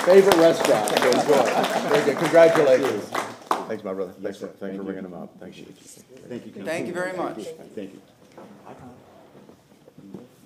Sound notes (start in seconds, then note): 0.0 laughter; 3.0 applause